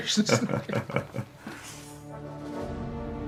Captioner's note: both laughing